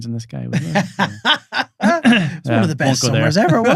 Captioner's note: laughing